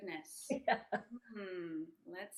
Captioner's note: laughing